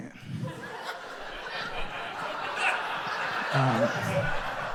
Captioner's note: audience applauds